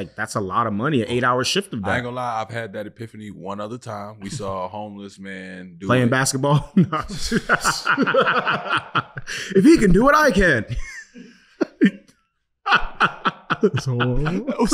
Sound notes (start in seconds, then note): 6.6 laughing; 12.6 group laughing